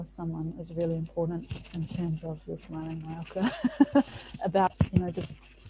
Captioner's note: static interference